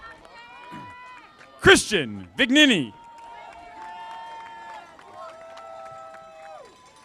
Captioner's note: audience applauding